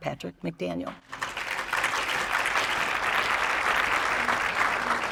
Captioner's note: applause